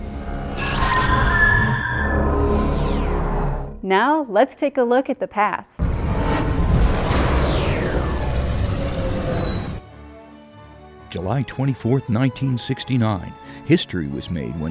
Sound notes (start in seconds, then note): 0.0 sound Effects; 5.8 sound Effects